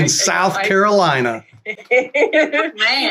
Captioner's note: laughter